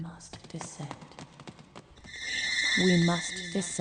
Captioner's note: rushing footsteps